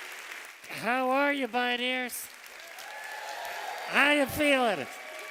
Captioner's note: cheers